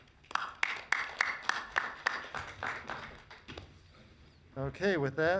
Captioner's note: audience clapping